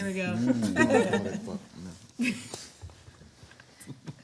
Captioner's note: everyone laughs